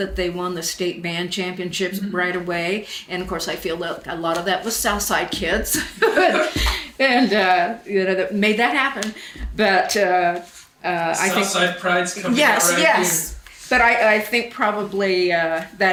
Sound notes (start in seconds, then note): 5.7 both laugh